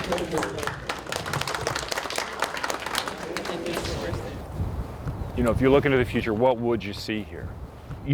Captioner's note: applause